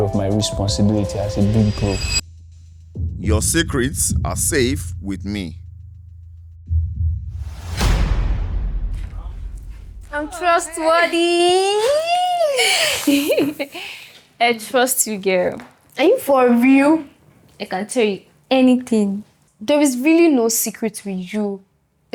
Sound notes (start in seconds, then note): 10.3 laughs